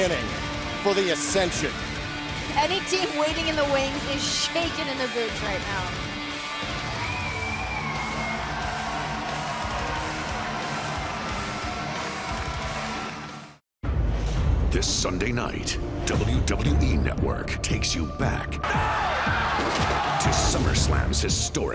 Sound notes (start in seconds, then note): 6.6 cheers and applause